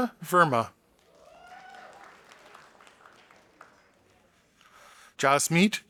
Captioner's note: audience applauding